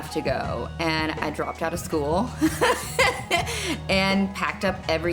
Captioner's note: laughing loudly